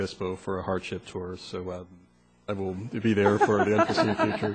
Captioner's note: laughter